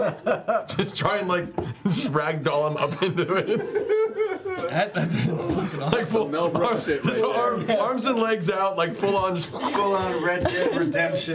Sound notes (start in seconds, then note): 3.9 laughing